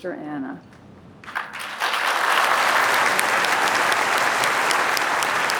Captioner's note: applause